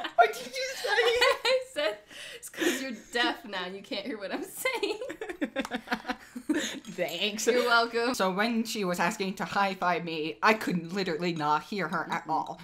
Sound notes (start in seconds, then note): 5.1 more laughter; 6.1 sarcastically